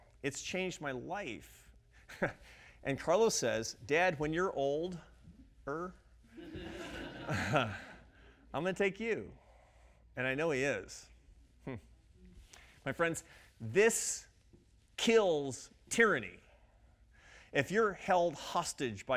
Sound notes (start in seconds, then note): 6.4 audience laughing